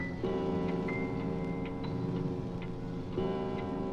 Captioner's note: clock tolling